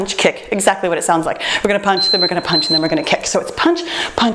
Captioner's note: timer beeps